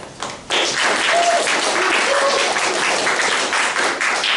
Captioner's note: applause